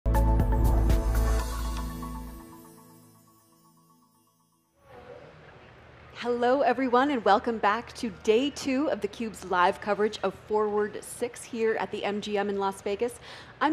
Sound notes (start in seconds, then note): 0.0 upbeat music; 6.1 crowd bustling